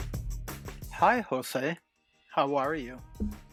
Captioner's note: recorded voice